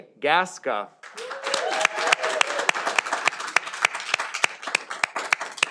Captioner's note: audience applauding